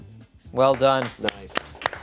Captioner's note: audience members clapping